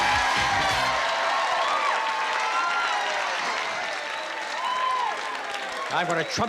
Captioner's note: cheering